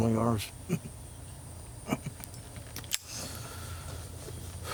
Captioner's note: soldier chuckling